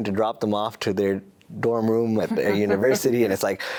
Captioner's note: laughs